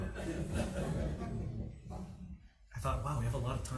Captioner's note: people laugh